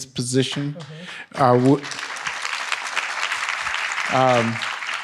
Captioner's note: audience applauds